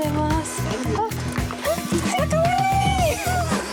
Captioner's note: laughs